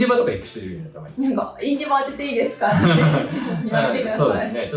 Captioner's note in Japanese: 笑い